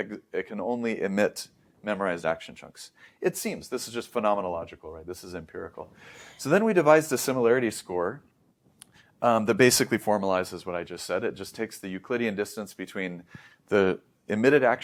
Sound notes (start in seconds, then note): 5.9 inhales; 8.7 lips smack